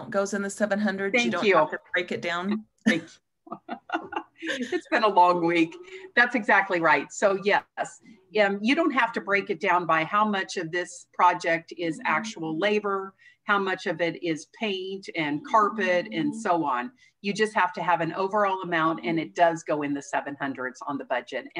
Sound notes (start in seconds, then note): 3.5 laughs